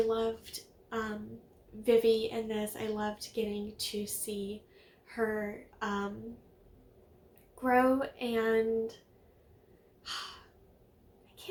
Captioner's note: sigh